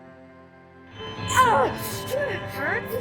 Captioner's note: June screams in pain